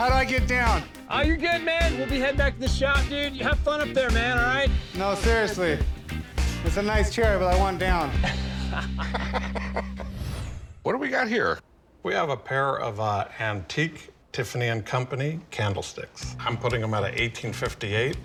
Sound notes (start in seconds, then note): 8.2 laughter